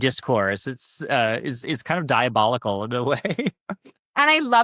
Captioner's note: chuckles